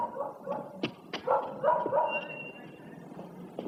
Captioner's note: dog barking